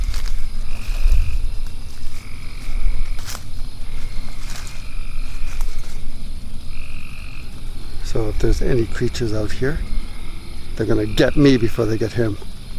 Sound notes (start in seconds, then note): 3.6 crickets; 3.6 footsteps